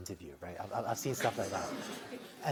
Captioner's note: laughter